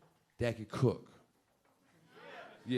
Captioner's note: audience members agreeing